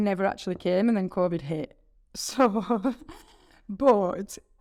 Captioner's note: chuckling